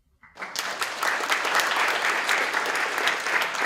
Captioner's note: applause